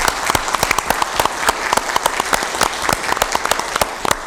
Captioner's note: applause